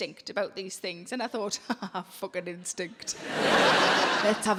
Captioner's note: audience laughing; laughs